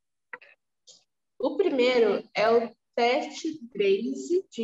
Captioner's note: speaking portuguese